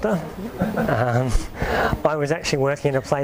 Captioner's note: audience laughs